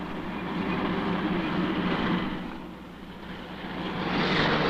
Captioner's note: car engine roaring